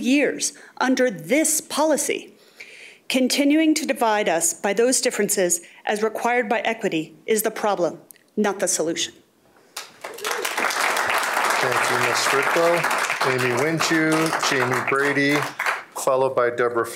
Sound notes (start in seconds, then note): 12.4 applause